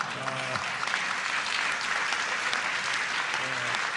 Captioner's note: laughter and applause